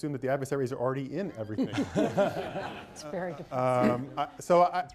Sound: laughter

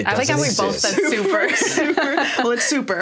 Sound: everyone laughs

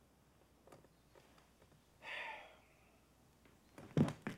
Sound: sighing

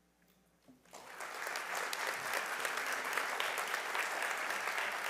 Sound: audience applauding

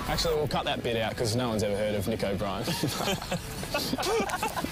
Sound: both laugh

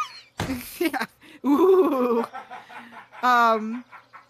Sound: laughs

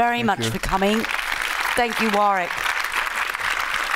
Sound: audience clapping

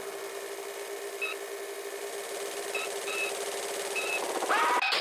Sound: sound of car wheels running off the road and screeching; panicked scream of Homer Simpson... CRASH

